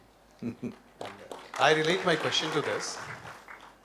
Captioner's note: Sadhguru laughs